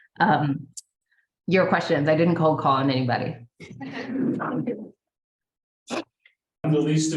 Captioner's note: laughter